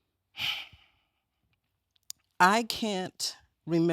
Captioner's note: exhales